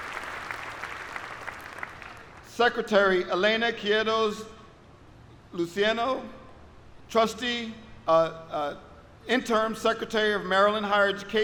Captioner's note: applause